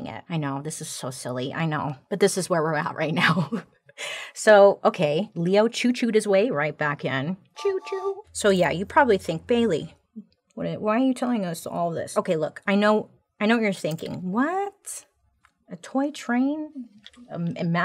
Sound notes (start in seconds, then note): 3.9 chuckles; 7.6 train whistling